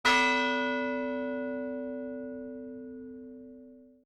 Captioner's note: bell tolls